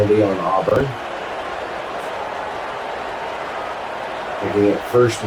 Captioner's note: crowd Noises